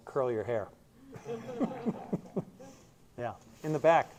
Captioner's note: laughter